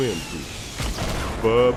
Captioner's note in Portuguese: Explosão